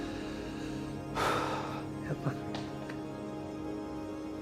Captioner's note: exhales